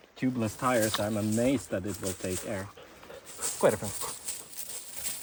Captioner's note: Swedish